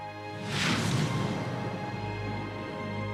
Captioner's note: whooshing